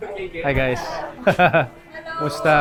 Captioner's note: laughs